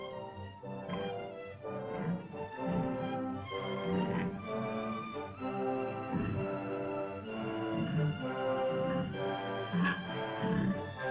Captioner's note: suspenseful music; dinosaur grunts